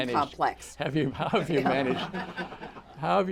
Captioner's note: laughter